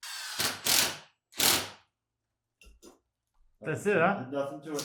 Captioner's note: drill vibrating